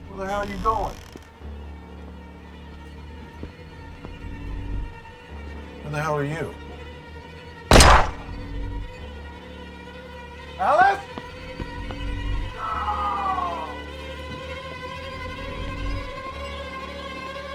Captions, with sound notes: Where the hell are you going? (tense music) Who the hell are you? (gun firing) Alice? No! (eerie music)